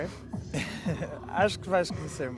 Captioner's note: laughter